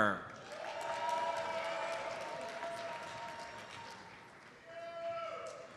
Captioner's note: audience cheers and applauds